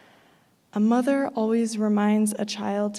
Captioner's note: none